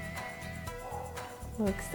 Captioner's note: upbeat music; exhales deeply